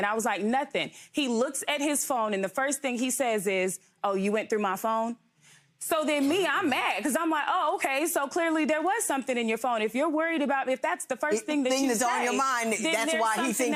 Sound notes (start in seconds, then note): none